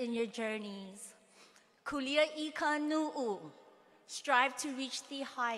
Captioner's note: speaking hawaiian